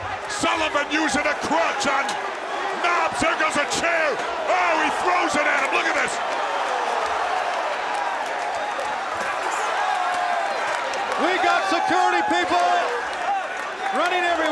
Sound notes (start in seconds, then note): 6.1 applause